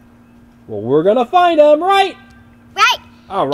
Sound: voiceover

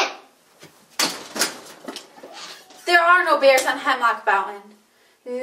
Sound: door slams

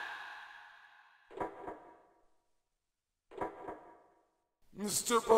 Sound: pendulum swinging

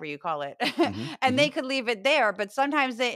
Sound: laugh

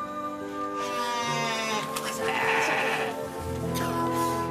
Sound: sheep bleating

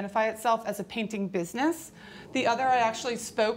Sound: audience gasps

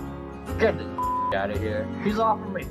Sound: beep

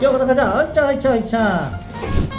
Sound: dashing sound

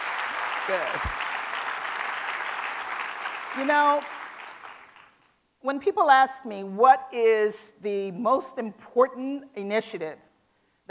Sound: applause

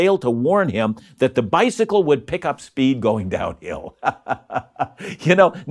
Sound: laughs

